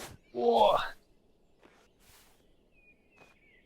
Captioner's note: Jim groaning